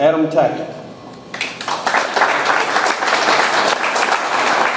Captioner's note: audience applauds